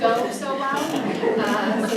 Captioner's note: audience laughs